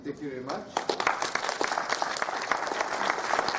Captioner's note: applause